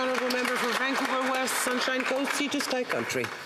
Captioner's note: applause